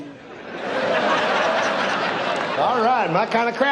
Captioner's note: audience laughs